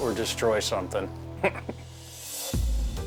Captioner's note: chuckles